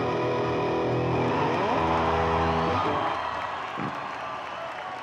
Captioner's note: audience cheering